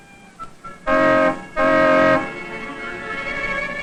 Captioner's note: car honks angrily